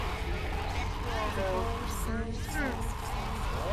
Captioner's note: ominous scratching